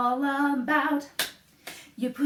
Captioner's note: clap, clap